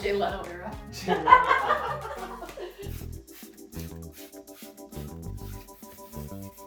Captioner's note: all laughing; laughing